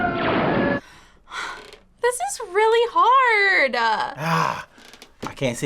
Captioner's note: sighs